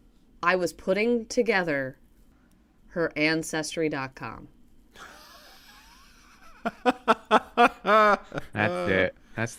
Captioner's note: laughter